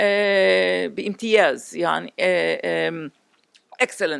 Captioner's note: non-english